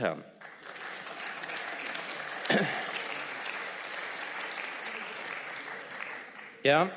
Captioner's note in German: Beifall